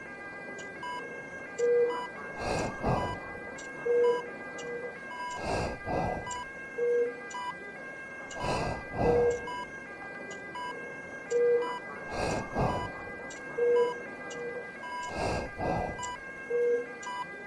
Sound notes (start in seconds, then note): 2.3 heavy machine-aided breathing